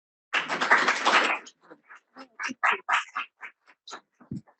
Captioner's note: audience claps